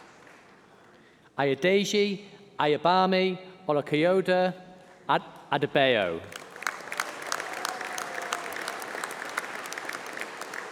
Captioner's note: applause